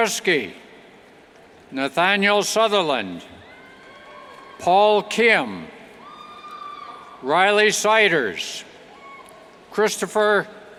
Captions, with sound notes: Nathaniel Sutherland, Paul Kim, (cheers) Riley Seiders, Christopher Gregorahis,